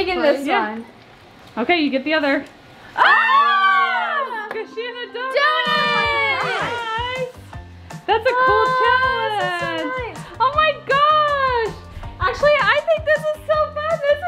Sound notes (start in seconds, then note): 0.2 speaking faintly; 2.9 group screaming